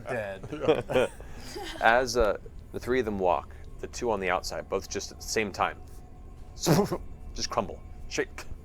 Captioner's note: impacts